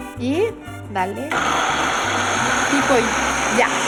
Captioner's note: whirring